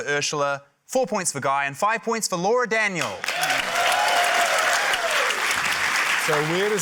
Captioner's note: cheering, applause